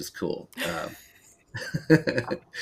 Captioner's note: laughs